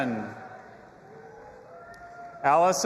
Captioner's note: audience applauding and cheering